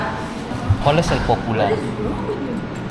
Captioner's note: Spanish